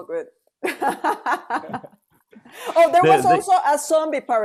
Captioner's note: laughs